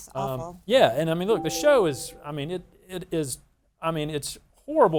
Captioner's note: melodious chime